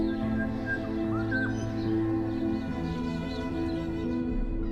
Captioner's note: birds chirping